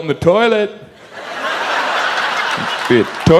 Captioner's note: audience laughs